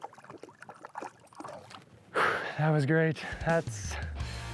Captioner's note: water sloshing